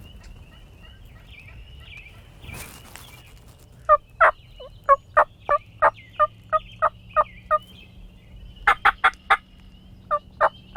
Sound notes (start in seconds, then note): 3.2 leaves rustling; 5.3 hunter using turkey call